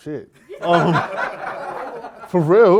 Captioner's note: laughter